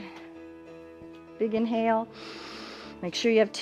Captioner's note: inhales